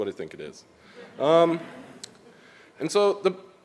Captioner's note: audience laughs